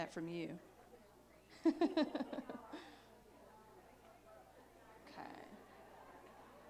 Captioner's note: laughs; chatter